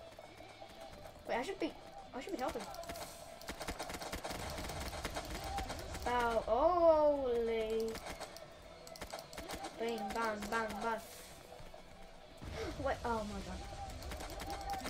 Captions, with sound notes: Wait I should be- I should be helping. Ah- hoooooly bam bam bam (Representing gun shots) What- oh my god.